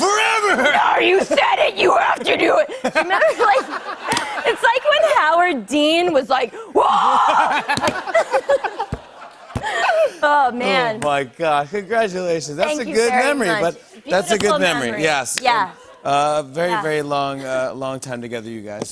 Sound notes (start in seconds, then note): 6.6 yells; 7.2 laughter